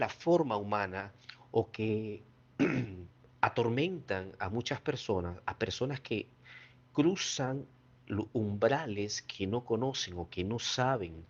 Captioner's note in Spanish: carraspeo